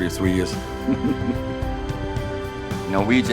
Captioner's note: laughs